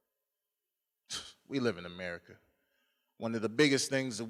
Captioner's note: scoffs